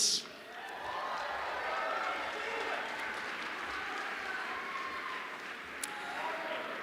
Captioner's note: cheers